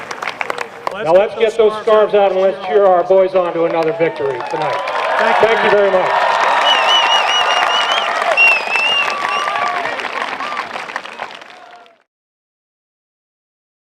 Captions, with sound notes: Now let's get those scarves out and let's cheer our boys on to another victory tonight. Thank you very much. [APPLAUSE]